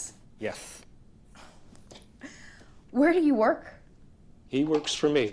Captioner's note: scoffs